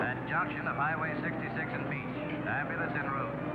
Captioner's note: man On Radio